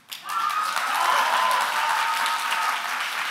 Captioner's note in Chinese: 掌聲歡呼